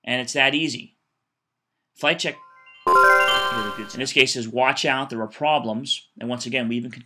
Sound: computer chimes

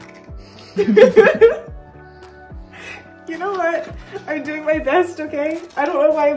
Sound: laughter

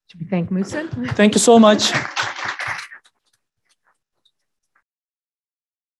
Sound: audience clapping

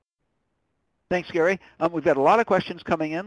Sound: voiceover

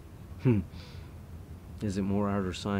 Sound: chuckles

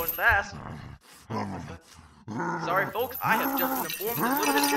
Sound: low growling

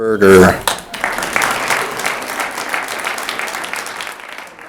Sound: audience applauds

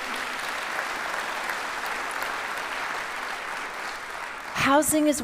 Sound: audience applauds

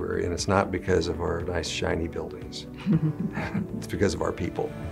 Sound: laughing

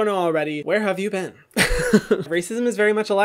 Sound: laughs

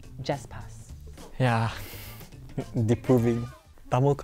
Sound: sighs

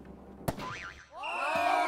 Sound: slap!

